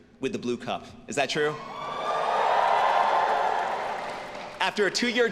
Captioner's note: students cheering